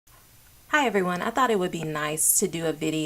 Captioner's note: female speaking